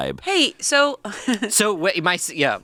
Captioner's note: giggles